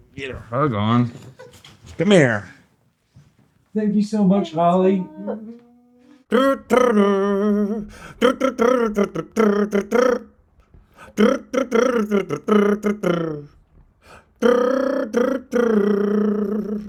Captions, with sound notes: Get a hug on. Come here. Thank you so much, Holly. (hums)